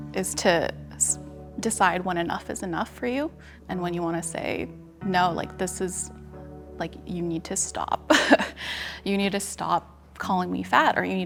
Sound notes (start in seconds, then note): 8.1 chuckles